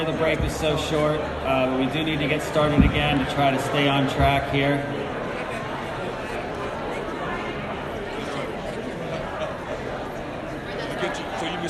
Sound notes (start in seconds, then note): 7.3 crowd talking to each other